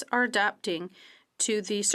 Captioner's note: speaking French